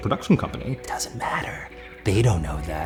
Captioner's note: whispering